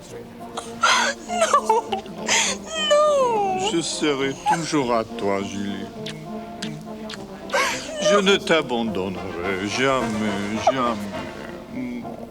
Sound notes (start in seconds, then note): 0.9 gasps; 3.8 John speaks French